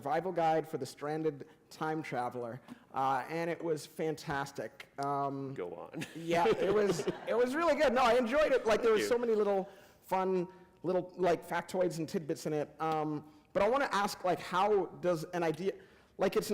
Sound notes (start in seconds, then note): 6.0 laughter